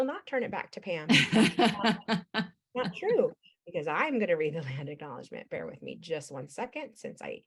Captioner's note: laughs